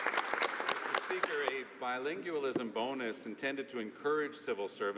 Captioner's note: some Applause